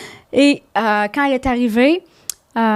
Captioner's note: in french